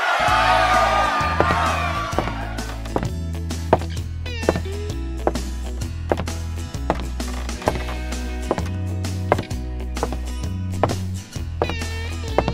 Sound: footsteps

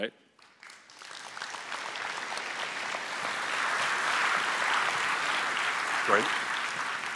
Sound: applause

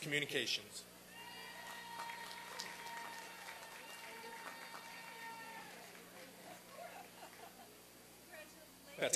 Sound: applause and cheering

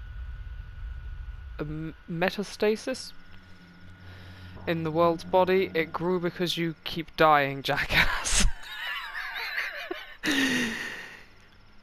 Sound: laughs

